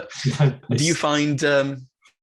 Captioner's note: chuckles